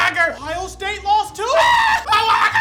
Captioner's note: screaming; screaming continues